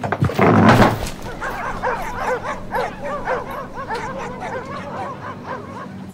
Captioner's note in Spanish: Perros ladrando